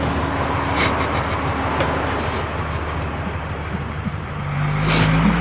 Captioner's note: John snickering